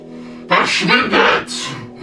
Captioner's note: En alemán